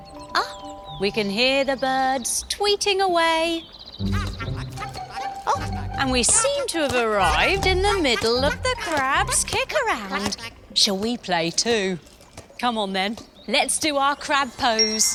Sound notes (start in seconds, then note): 3.6 crabs clacking